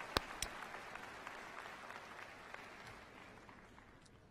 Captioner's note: applause